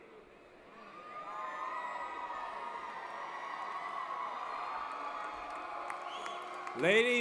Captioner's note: applause & Cheering